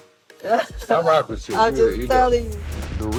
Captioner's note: laughs